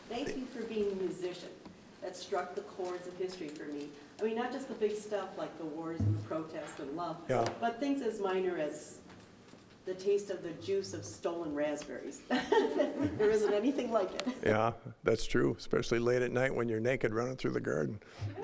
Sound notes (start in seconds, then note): 12.4 scattered chuckling